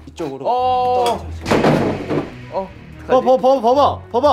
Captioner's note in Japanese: ガタン